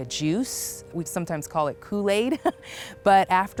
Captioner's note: chuckles